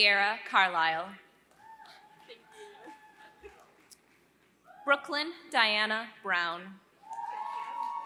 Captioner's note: applause